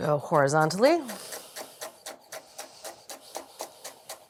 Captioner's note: knife chopping